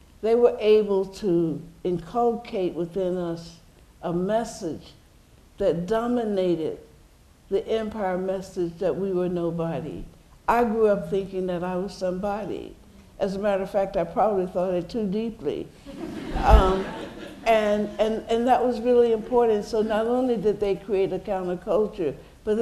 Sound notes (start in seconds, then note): 15.8 laughter